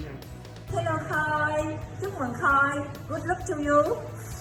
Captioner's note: speaking in foreign language